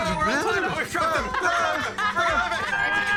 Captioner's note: laughs